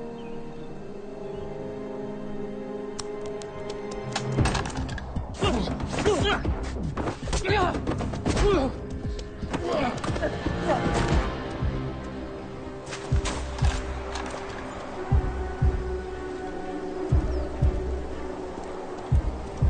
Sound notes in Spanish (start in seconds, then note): 4.7 Gruñidos